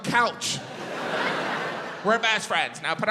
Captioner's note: audience laughs